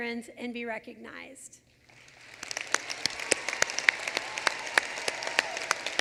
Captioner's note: applause